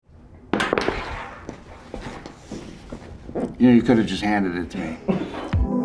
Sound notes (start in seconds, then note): 0.5 cap lands; 5.5 upbeat music